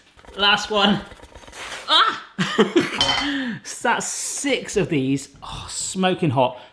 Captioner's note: laughs